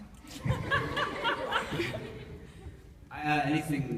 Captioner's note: laughs